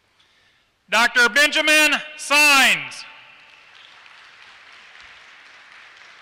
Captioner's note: applause